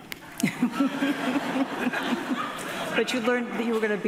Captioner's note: audience laughing